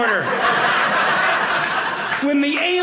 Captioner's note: audience laughing